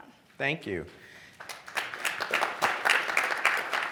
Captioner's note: applause